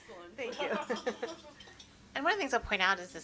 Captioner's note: panelists laugh; chuckles